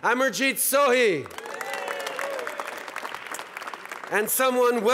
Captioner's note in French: Acclamations et applaudissements